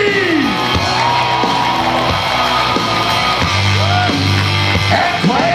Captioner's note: audience cheers